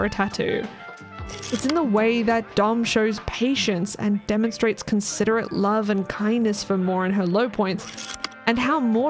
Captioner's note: projector slide click